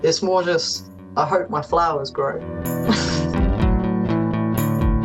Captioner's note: gentle laugh